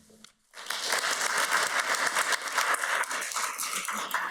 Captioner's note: audience applauds